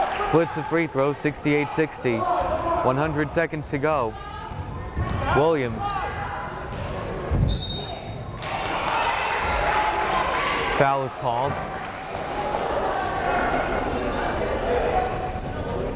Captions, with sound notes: Splits the free throws, 68-60. 100 seconds to go, Williams. (whistle blows) (crowd applauding) Foul is called. (crowd chattering)